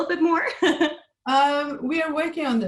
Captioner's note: laughs